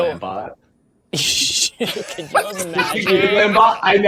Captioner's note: laughing